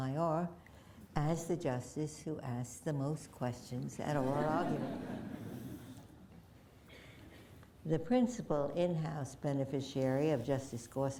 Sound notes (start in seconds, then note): 6.7 laughter